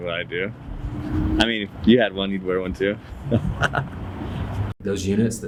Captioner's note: laughing